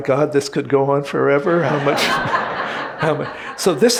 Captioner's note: audience laughing